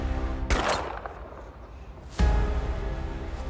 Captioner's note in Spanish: Disparos